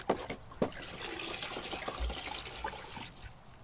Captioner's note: rinsing